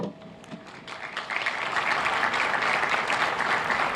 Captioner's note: applauding